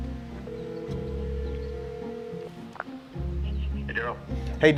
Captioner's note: phone ringing